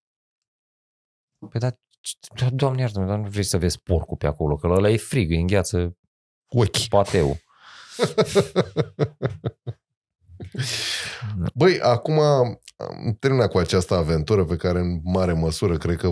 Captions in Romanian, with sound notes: hrană Păi dar Doamne iartă mă dar nu vrei să vezi porcul pe acolo că la ăla e frig îi îngheață ochi [Râsete] pateul Băi Acuma am terminat cu această aventură pe care în mare măsură cred că